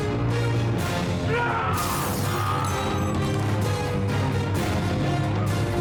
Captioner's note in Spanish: ruido de vidrios